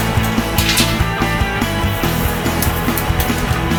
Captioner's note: upbeat music; buttons pinging